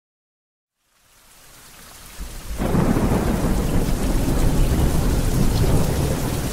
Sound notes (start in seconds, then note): 0.7 rain pouring; 2.3 thunder whirring